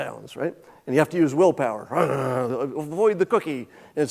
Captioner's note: growling